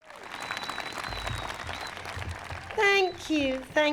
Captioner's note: audience clapping